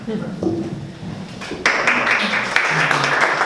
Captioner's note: applause